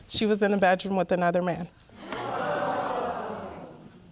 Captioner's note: audience murmuring